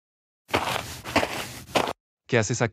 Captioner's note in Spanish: FX - Footsteps - On Multiple Dirt - Walk